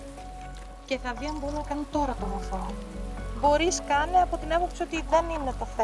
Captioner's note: speaking in a foreign language